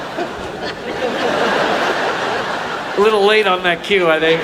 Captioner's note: audience laughs; all laughing